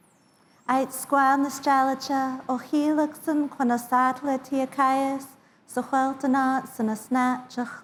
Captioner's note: indigenous Language